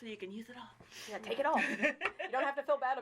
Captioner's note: laughing